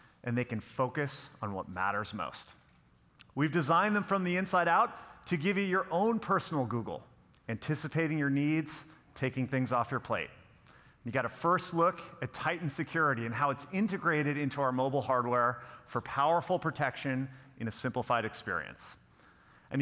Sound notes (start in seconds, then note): none